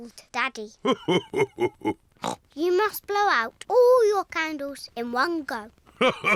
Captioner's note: laughs; oinks; laughs